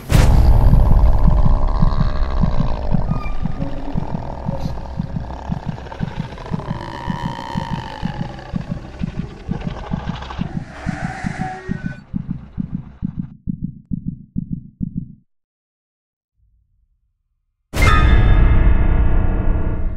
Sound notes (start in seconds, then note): 0.2 social Growling; 11.6 heart Beating Rapidly; 15.0 heart Beat Stops